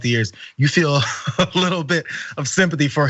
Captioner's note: laugh